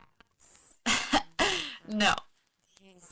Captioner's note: laughing